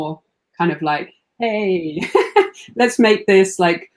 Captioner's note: laughs